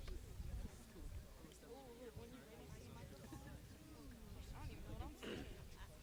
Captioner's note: choir mumbles